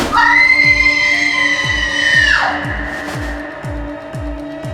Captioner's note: nurse screaming